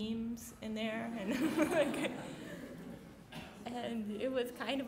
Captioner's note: laughing